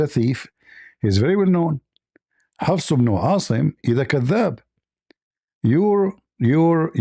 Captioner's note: Arabic